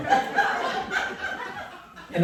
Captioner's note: laughter